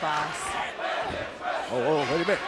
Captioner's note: fans chanting